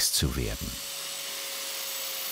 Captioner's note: machine noises